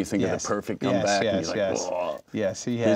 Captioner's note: groans